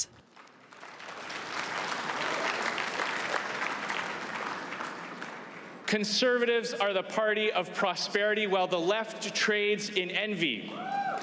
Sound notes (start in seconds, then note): 4.6 applause